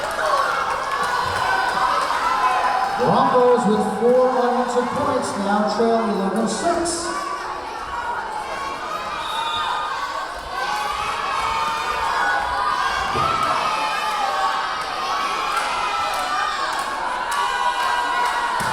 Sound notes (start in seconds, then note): 0.0 cheering; 0.0 clapping; 8.2 yelling; 9.2 whistle blowing; 12.9 yelling